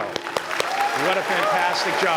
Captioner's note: applause